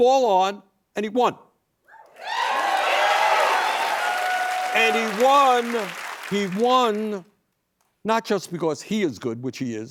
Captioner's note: cheers and applause